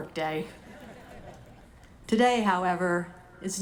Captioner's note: audience laughing